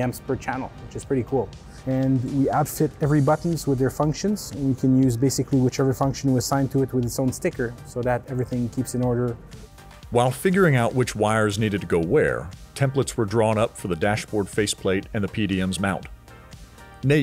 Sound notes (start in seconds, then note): 10.1 voiceover